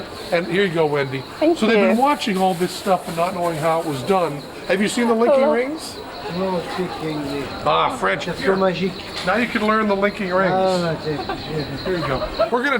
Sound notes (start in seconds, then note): 10.4 speaking french